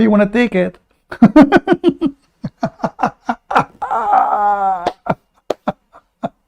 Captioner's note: Ketawa